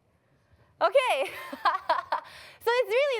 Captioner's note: laughs